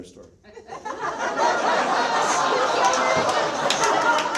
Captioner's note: audience laughs